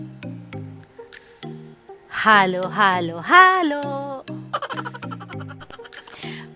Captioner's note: laughing